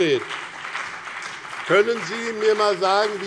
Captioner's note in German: Beifall BÜNDNIS 90/DIE GRÜNEN und CDU